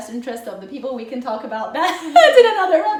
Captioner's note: laughing